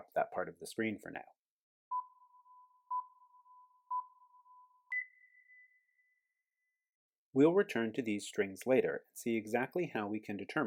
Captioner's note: countdown beeps